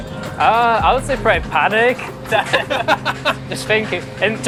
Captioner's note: both laugh